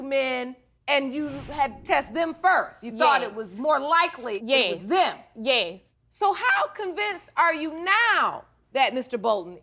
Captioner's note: none